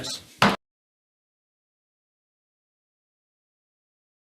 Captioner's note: gavel thuds